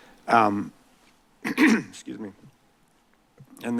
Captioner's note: clears throat